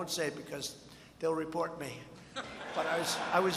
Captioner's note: laughter